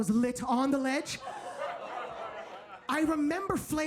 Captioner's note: audience laughs